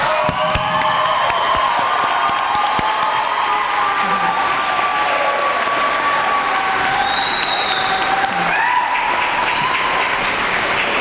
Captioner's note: applause